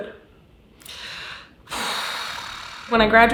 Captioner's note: sighs